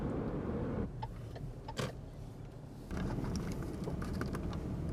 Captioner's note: blinker clicking